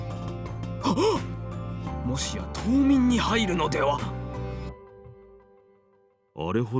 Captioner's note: gasp